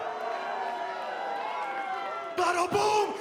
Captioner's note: cheers & boos